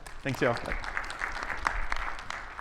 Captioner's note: audience applauding